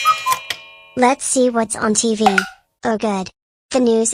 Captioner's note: remote clicks